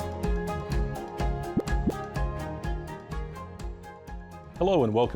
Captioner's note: graphic pops